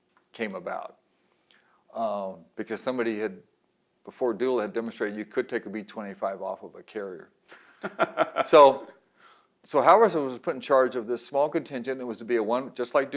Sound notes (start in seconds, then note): 7.7 laughs